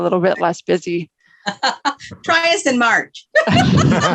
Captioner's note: laughs